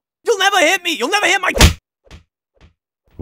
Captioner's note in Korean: 찰싹